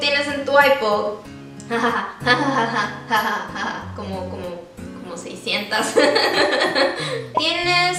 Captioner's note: nervous laugh